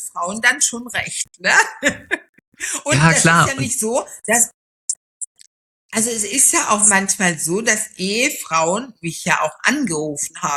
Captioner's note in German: gelächter